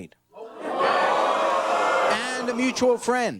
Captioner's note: audience exclaims